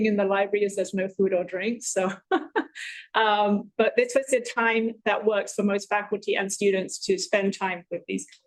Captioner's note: chuckles